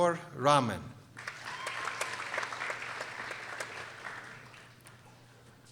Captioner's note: people applauding